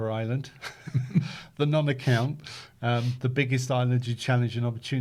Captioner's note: chuckles